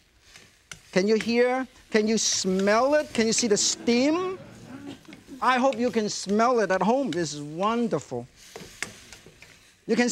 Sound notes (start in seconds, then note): 1.7 wok clinking; 4.5 audience talking distantly; 8.4 ingredients sizzling; 8.5 wok clinking